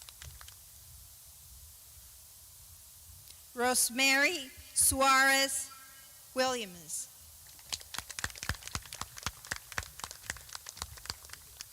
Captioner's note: clapping